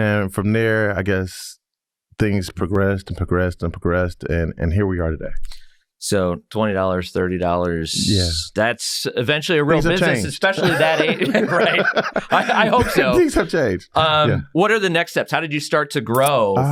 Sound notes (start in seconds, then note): 10.5 laugh